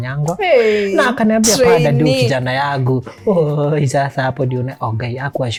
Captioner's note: reciting